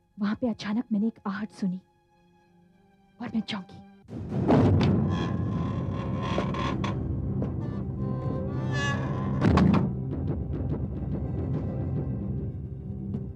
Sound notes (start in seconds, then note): 4.4 door creaks; 9.4 door closes